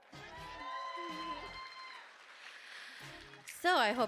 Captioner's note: audience cheering